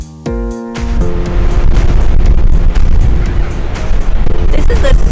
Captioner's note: sound of rushing wind